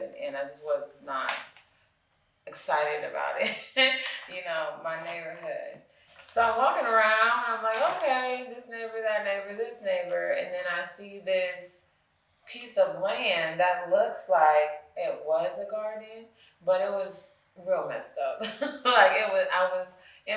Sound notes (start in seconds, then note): 3.6 chuckles; 19.3 chuckles